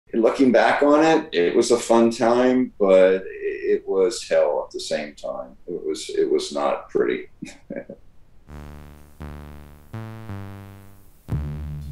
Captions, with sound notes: - Looking back on it, it was a fun time. But it was hell at the same time, it was not pretty. (laughs) (bright upbeat music)